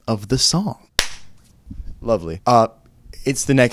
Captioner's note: single clap